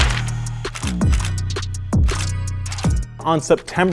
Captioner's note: camera shuttering